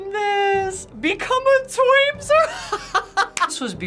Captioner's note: laughs